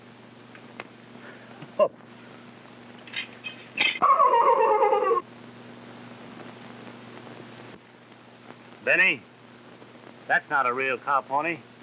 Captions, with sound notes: - Oh. (Phantom whinnies) Benny, that's not a real caught pony.